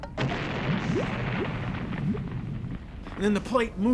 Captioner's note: creaking; explosion